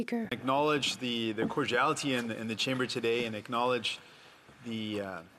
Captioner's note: speaking French